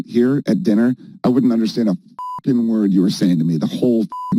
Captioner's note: beep